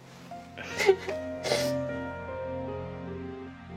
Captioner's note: sniffling